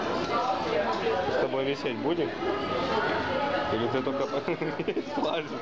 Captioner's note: laughter